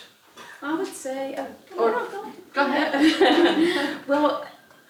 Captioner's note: laugh